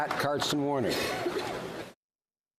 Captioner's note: applause